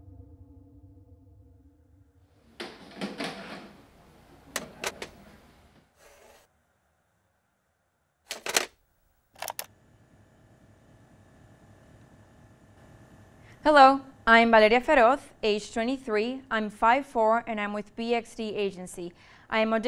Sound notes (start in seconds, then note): 2.9 clattering tape